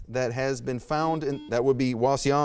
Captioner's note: buzzer beeps